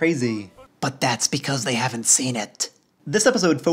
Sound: whispering

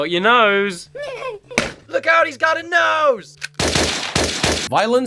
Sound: laughter; gunshots

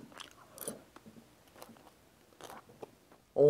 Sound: crunch, crunch

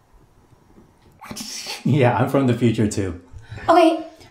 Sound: laughs

